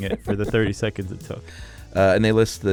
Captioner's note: laughs